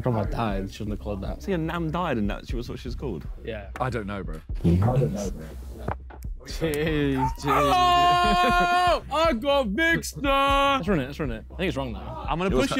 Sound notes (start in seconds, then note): 6.9 Ethan yelling